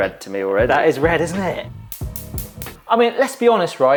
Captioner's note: igniter clicks